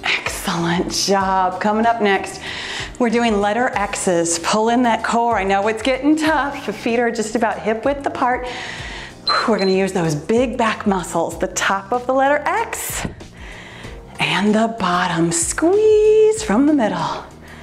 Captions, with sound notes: Excellent job. Coming up next we're doing Letter X's. Pull in that core. I know it's getting tough. The feet are just about hip width apart. We're gonna use those (timer beeps) big back muscles, the top of the letter X, and the bottom, squeeze from the middle.